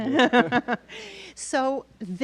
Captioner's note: laughs